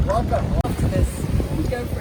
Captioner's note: male Voice